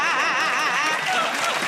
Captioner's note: laughter and applause